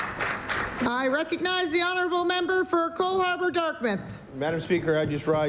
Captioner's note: applause